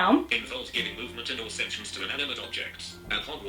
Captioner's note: phone speech